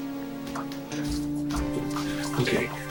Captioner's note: footsteps thudding